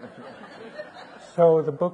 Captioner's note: audience laughing